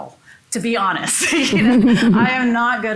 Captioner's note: laughs